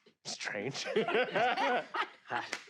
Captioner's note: laugh